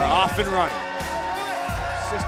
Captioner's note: bell ringing